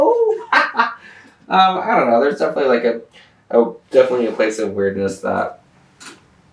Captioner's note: laughter